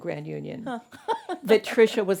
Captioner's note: laughs